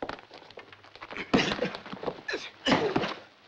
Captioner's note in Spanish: gruñe